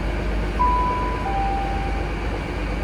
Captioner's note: announcement Sound